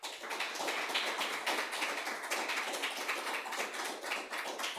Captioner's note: applause